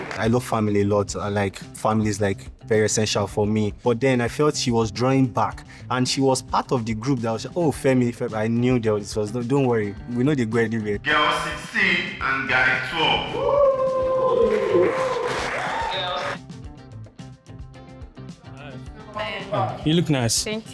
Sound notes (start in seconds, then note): 15.6 crowd cheering